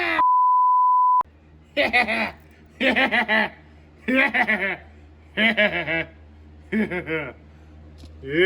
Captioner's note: Caprice laughs and giggles